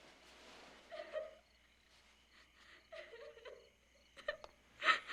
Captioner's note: crying